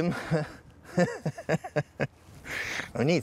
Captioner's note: laughs